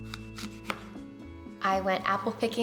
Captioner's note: apple crunching